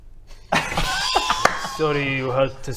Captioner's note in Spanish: risa incómoda